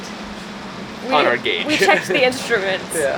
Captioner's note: laughs